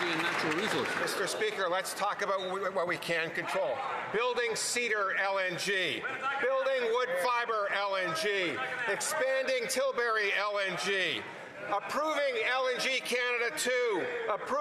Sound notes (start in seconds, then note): 1.9 some Applause